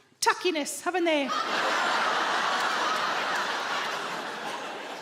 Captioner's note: audience laughing